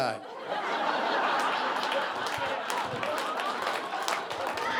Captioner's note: audience laughing